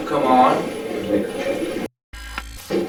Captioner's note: static playback transmitting; static fizzing